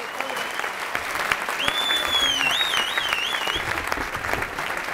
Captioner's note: applause